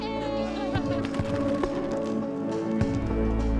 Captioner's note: laughs; slow dramatic music